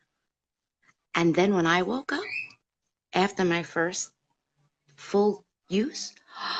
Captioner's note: gasp